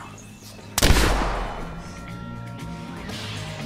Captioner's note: gunshot blasts